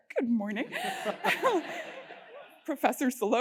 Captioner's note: laugh